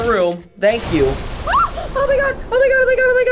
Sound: shrieking

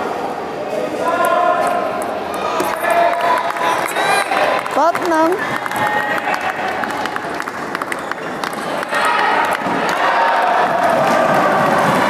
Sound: applause

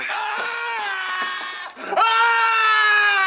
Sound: a man's cry

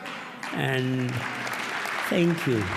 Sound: applause

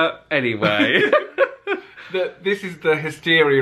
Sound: pair laughs

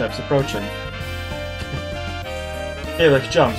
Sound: chuckles

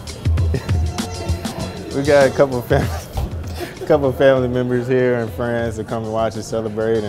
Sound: laughs

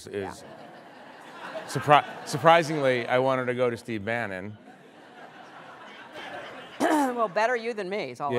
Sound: laughter

